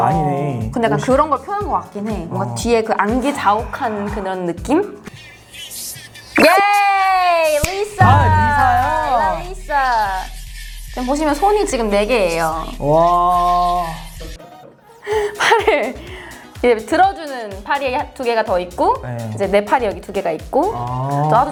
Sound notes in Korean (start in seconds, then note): 6.4 비명; 15.0 웃음